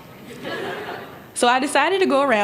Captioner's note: laughter